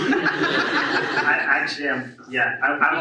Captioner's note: audience laughs